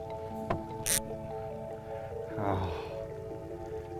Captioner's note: zip